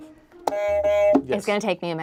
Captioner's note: buzzer honks